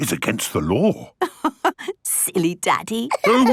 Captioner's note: laughing